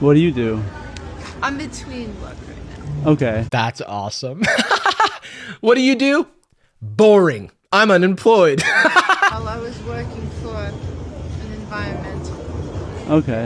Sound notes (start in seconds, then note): 4.4 laughs; 8.7 cackles